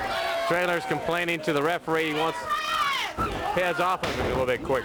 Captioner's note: crowd chatter